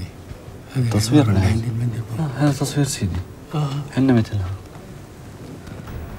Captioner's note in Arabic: يتحدث باللغة الأجنبية